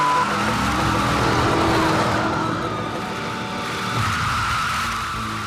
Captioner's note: tires screeching